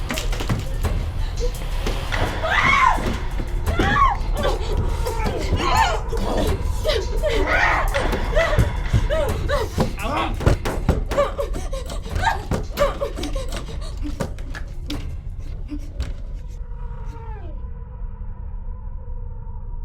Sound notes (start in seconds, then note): 0.2 Gessica screams; 9.1 banging